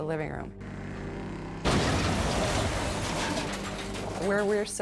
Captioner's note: van crashes